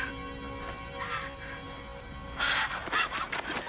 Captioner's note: Rebecca breathing heavily